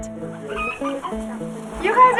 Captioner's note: chickens clucking